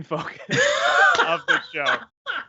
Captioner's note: laughs